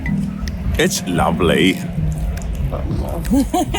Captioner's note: lively music; teeth gnashing